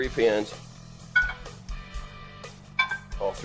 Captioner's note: pans clanking